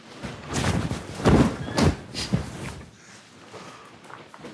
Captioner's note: sumo suits rustling